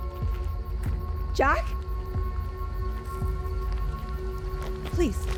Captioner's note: crickets chirping